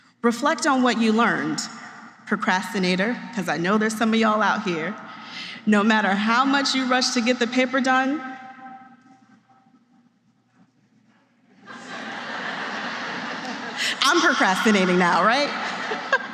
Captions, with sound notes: Reflect on what you learned. Procrastinator - because I know there's some of y'all out here - no matter how much you rush to get the paper done... [laughter] I'm procrastinating now, right?